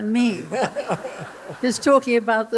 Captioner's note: laughter